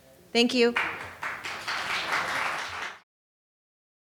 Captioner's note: audience applauding